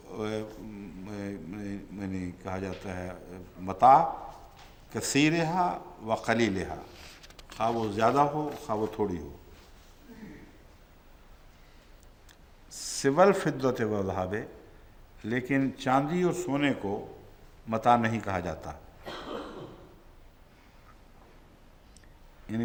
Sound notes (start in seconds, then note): 4.8 Arabic